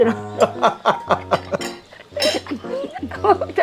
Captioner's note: both laughing